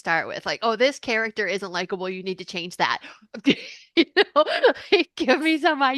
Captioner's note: laughs